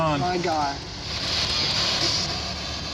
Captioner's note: static crackling